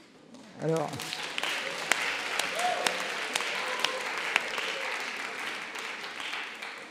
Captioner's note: applause